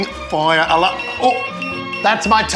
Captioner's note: fire alarm beeping